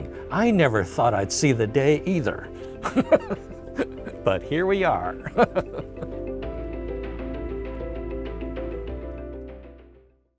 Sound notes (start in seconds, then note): 5.2 laughing